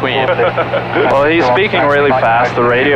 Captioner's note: laughing